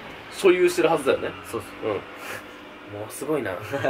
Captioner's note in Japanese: ブーン…